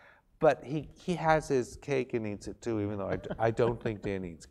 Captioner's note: laugh